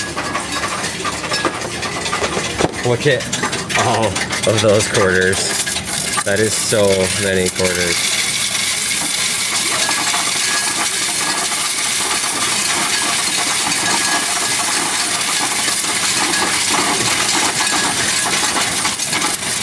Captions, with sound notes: Look at all those quarters. That is so many quarters. (coins rattling)